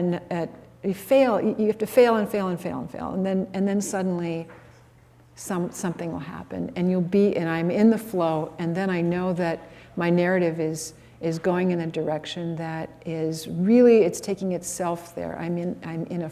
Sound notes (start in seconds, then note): none